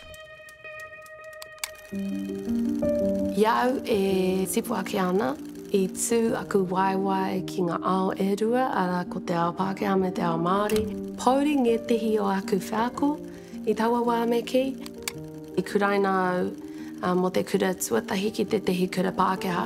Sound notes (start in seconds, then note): 3.4 speaks Te Reo Māori